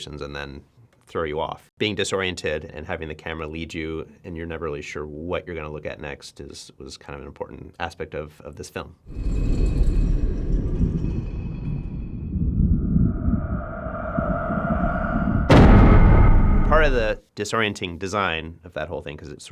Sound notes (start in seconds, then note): 9.3 menacing music; 9.3 stone scraping; 15.5 doors banging